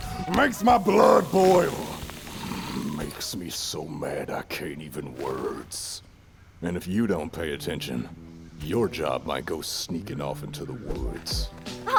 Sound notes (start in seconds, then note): 2.4 grumbles